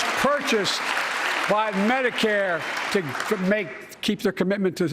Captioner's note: applause